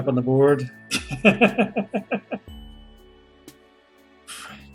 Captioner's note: chuckles